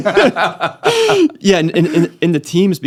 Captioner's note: laughing